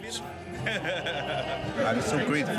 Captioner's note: laughing